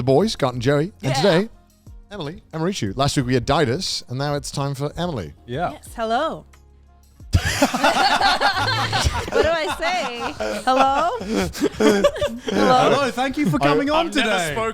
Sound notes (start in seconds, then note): 9.6 calm music; 10.1 sighs